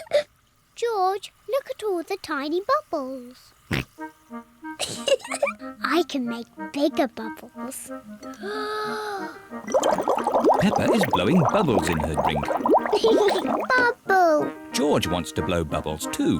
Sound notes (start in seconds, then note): 3.7 oinks; 4.8 giggles; 7.9 takes big breath; 12.3 laughs